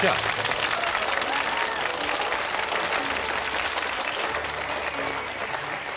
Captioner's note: audience clapping and cheering